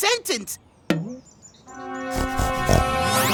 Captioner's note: snorting like a pig